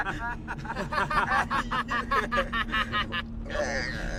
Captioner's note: JEFF starts laughing; ABED starts laughing too but it doesn’t match JEFF and TROY’s laugh at all